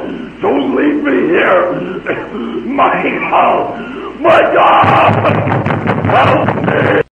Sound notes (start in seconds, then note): 1.9 dramatic couth sfx